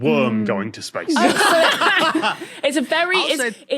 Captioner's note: group laughs uproariously